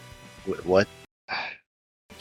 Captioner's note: stereotypical media reviewer sigh